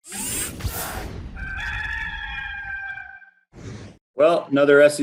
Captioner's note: rooster crowing